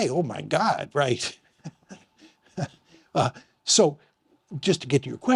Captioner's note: chuckling